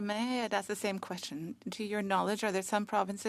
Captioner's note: speaking French